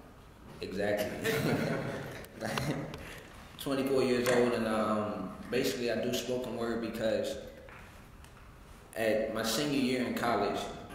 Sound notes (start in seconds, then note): 1.2 laugh